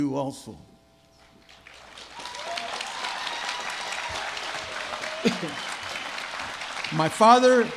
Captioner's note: applause